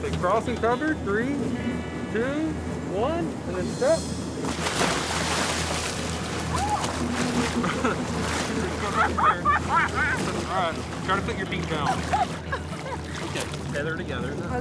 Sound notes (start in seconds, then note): 4.4 water splashing; 7.4 laughs; 7.4 chuckles; 11.6 laughs